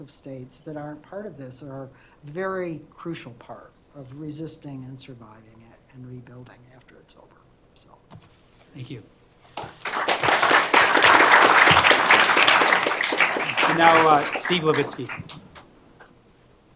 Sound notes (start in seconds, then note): 9.6 applause